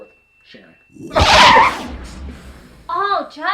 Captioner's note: screeching